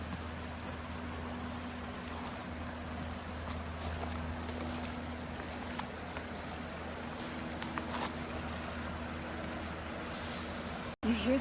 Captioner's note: sound of walking the path